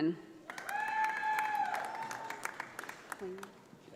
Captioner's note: audience applauding